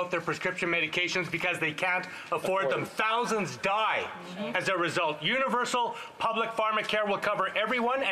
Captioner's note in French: voix de l'interprète